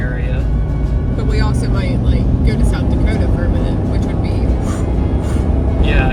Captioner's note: swishing noises